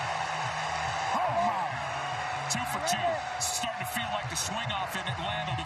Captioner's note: cheering